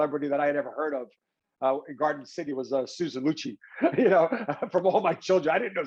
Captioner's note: laughs